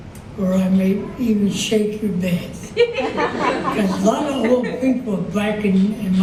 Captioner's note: audience laughter